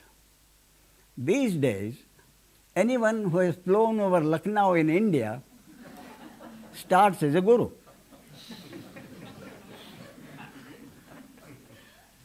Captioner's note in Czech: smích